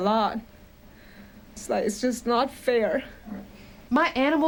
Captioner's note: voice breaking